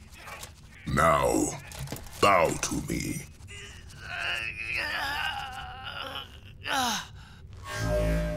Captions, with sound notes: Now, bow to me! [grunting]